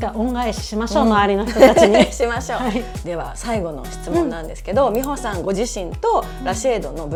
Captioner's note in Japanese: 笑い